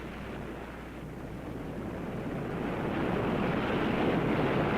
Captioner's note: waves roaring